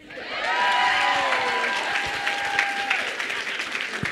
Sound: applause

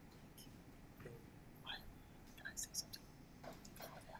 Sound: whispering

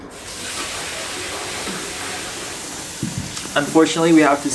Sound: tap water runs

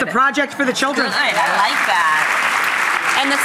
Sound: applause

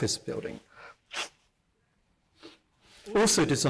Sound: sniffs

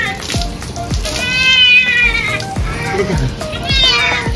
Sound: Meowi Meowing

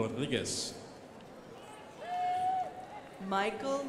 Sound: crowd applauding

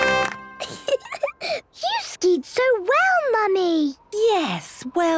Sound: triumphant music; giggling

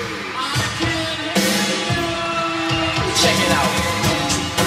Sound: crowd cheer

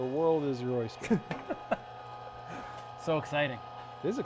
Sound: laughs

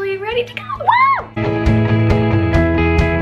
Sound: cheers; upbeat music

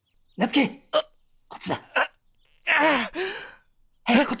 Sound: urgh argh

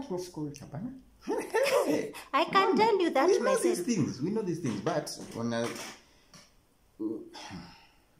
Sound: sigh

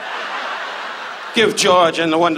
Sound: audience laughs

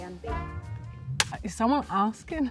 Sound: click of clapboard

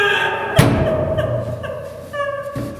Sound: crying loudly; battering the door; crying loudly

